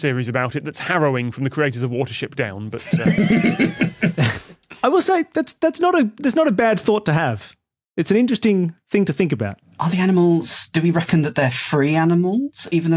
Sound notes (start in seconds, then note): 2.8 guests crack up